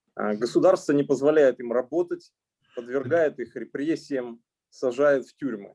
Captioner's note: speaking Russian language